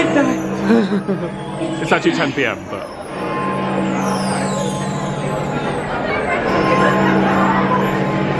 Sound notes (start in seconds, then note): 3.5 clock gonging